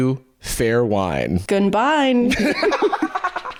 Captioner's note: laugher